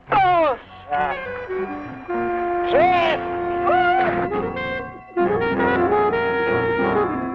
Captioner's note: upbeat instrumental music; man screaming